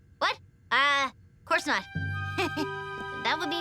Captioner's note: giggles